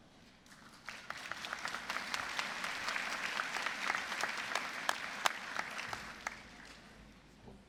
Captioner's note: applause